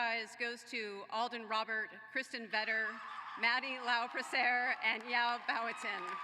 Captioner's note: applause